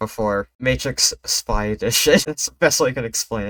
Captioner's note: laugh